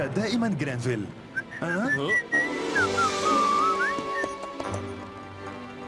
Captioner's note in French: sifflement!